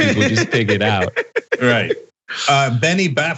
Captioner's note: laugh